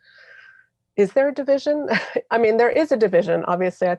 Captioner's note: chuckles